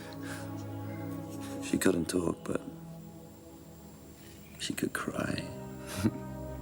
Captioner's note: laughs